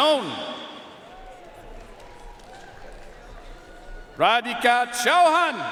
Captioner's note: audience cheering and applauding